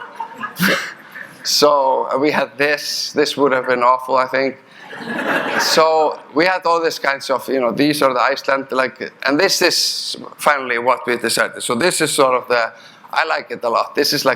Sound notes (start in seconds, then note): 0.0 audience chuckling; 4.7 audience laughing